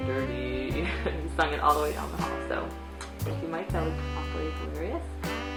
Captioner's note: laughing